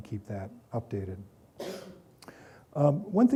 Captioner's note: coughing